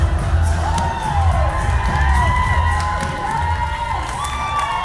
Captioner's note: audience cheering